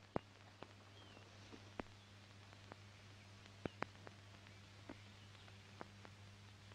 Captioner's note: rustling sound; birds chirping